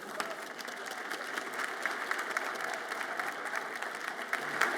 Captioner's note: audience applauds